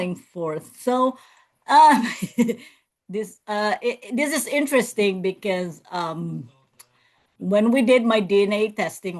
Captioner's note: laughs